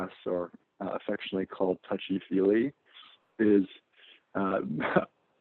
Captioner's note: laugh